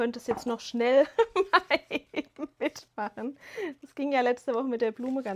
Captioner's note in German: gelächter